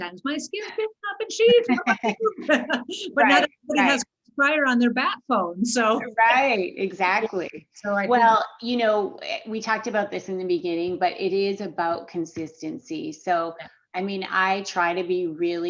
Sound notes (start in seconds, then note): 1.5 both laughs